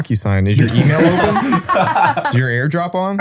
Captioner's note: group laughs